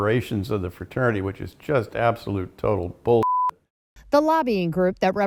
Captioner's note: beep